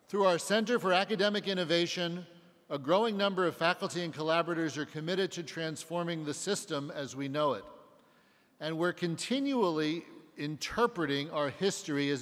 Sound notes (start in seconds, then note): none